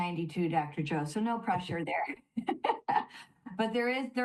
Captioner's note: laughs